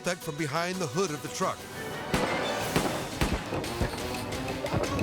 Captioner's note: suspenseful music; shots firing; suspenseful music